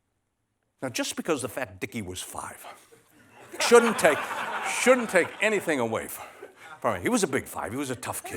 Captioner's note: laughter